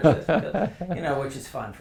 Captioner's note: laugh